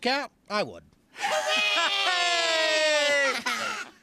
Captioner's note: all cheering